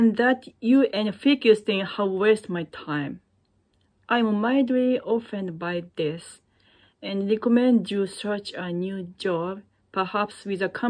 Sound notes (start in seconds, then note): none